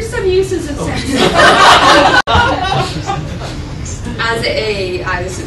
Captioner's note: laughter